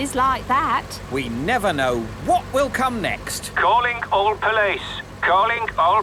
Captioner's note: radio